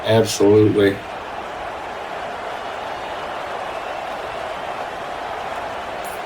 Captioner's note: crowd cheering